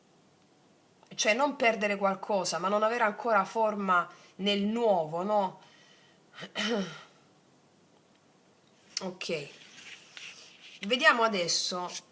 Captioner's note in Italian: schiarire la voce